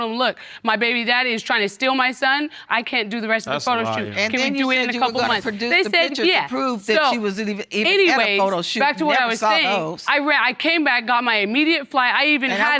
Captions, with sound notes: and told them, "Look, my baby daddy is trying to steal my son. "I can't do the rest of the photo shoot." That's a lie, Your Honor. "Can we do it in a couple of months?" They said, "Yeah." So, anyways, back to what I was saying... (ARGUING) I came back on my immediate flight.